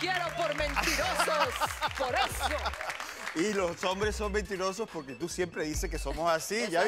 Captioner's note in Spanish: Aplausos; Risas